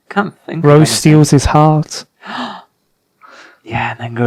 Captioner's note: gasp